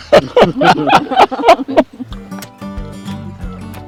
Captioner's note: loud laughter